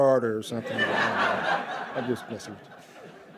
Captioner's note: laughter